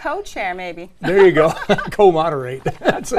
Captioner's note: laugh